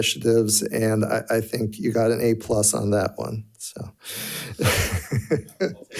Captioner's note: laughs